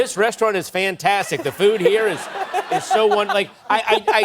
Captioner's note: laughter